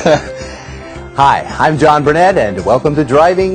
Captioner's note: laughs